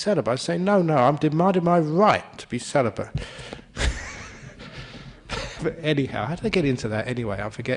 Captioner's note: laughter